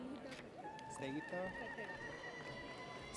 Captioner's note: audience cheers